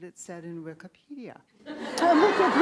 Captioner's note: laughs